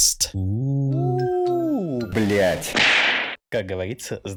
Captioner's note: uuu blyat russians noises